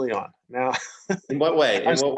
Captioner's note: laughs